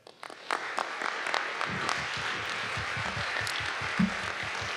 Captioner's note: audience applauding